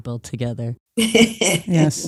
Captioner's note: laughs